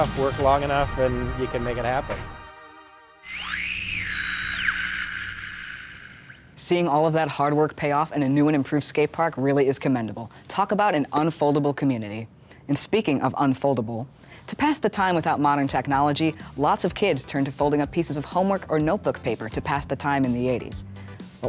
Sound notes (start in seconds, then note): 2.0 energetic upbeat music fades; 3.3 radio crackling